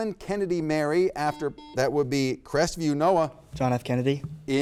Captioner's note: buzzer beeps